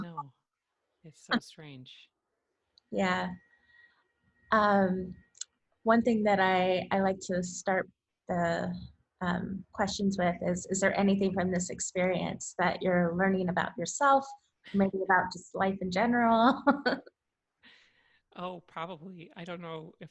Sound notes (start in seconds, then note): 16.5 laughs